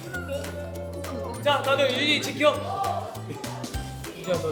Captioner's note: haha